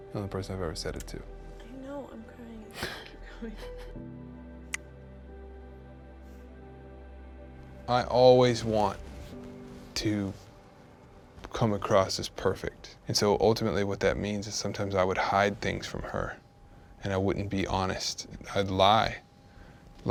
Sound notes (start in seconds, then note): 3.4 chuckling; 4.7 fingers snapping